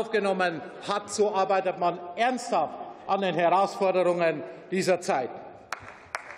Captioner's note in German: Beifall